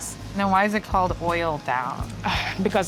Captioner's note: sighs